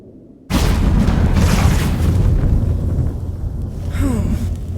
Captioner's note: portal rumbles